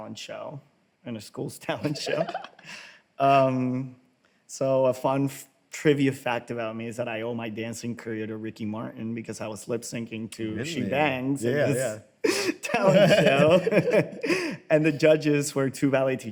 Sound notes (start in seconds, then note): 1.8 laughs